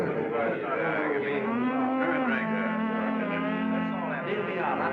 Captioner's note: men humming